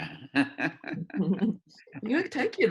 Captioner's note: laughter